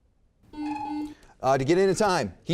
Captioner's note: timer sounds; beep